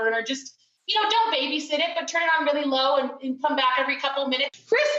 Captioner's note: none